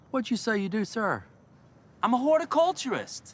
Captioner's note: none